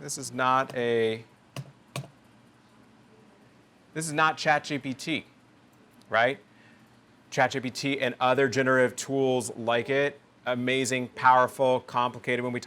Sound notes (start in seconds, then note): 1.9 mouse clicking